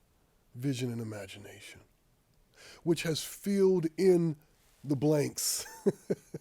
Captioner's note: laughs